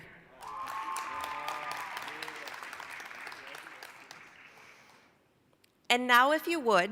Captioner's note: applause, cheering